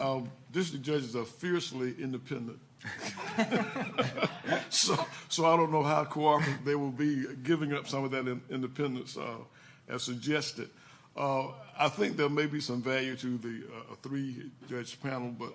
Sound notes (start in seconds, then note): 2.9 laughing